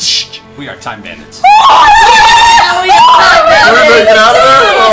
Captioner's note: cheering